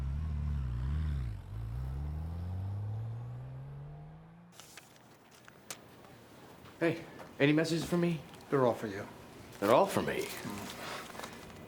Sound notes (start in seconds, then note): 0.0 car engine rumbles; 4.5 paper rustling; 9.4 paper rustling